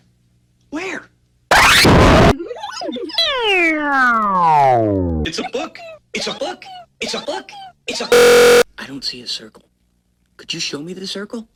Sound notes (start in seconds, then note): 1.5 distorted sounds; 3.4 book stutters and lowers in pitch; 5.1 looping and rising in pitch; 8.1 loud buzz